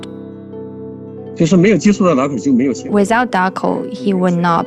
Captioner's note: speaking Mandarin Chinese